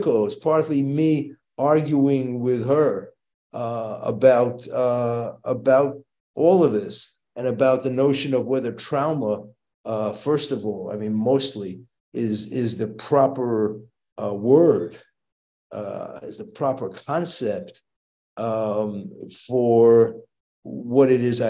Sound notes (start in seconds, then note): none